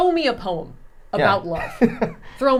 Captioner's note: laughing